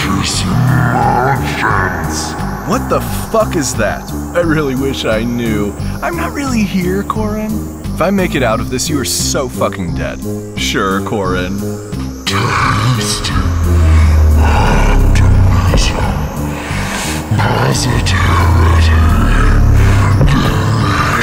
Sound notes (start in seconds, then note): 15.6 sliding sounds and heavy footsteps